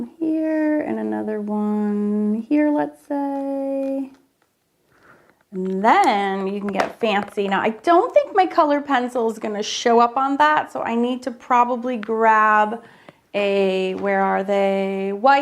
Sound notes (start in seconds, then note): 5.5 marker clacks